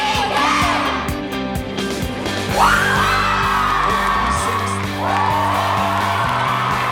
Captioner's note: cheering